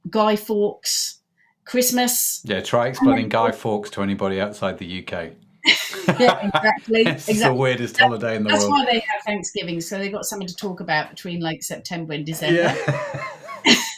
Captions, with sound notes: Guy Fawkes, Christmas. - Yeah, try explaining Guy Fawkes to anybody outside the UK. (laughing) - Yeah, exactly. - This is the weirdest holiday in the world. - That's why they have Thanksgiving. So they've got something to talk about between like September and December.